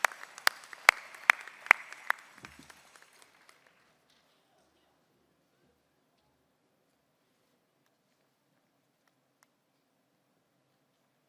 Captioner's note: applause